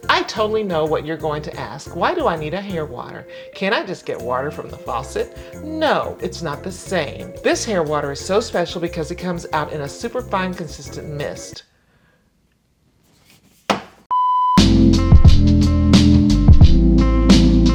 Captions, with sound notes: "I totally know what you're going to ask. "Why do I need a hair water? "Can't I just get water from the faucet? "No, it's not the same. "This hair water is so special "because it comes out in a super fine consistent mist." (bottle clacking) (test screen beeping) (upbeat music)